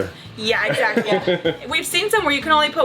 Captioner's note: laughing